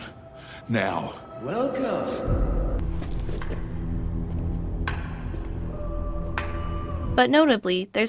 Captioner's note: slow clap